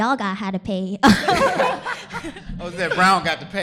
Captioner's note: laughter